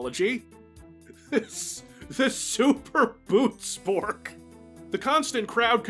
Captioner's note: holding back laughter